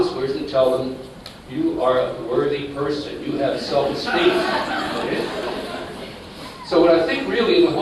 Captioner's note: laughter